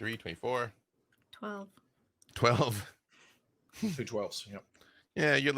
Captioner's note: chuckles